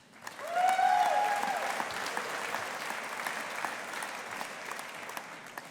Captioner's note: audience applauding